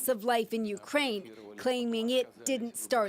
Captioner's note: foreign language